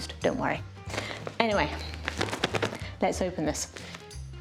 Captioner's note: tappy tappy tap